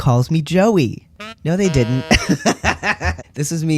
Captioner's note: laugh